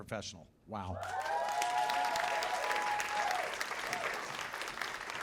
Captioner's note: cheers and applause